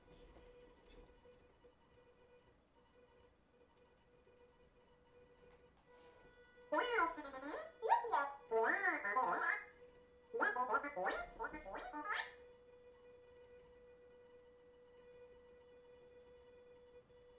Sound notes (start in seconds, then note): 10.3 BB-8 making sounds